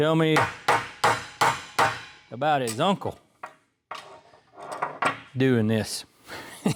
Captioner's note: clanging